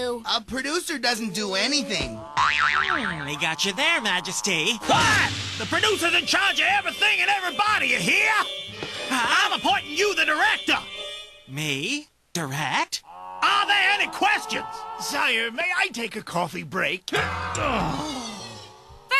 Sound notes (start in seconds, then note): 2.2 boing; 17.1 grunts, groans